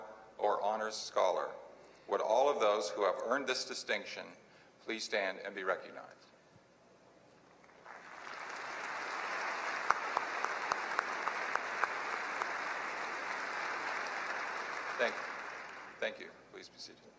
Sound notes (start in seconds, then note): 7.6 applause